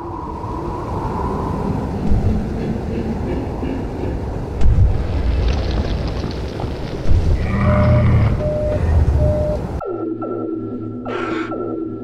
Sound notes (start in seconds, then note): 2.4 yeti groaning; 7.4 Yeti growl; 11.5 gasp